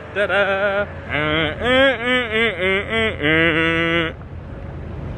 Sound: mimics mellow tune

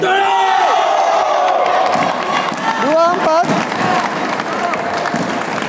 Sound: applause hands

